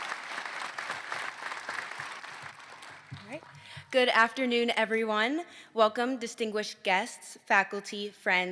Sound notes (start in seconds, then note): 5.5 applause